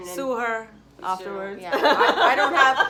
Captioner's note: laughs